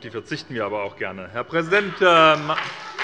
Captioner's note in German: Heiterkeit und Beifall bei Abgeordneten der SPD und der FDP